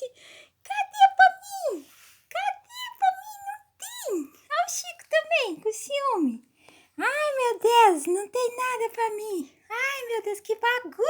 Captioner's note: baby pet voice 'activated'